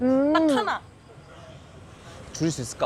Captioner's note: silence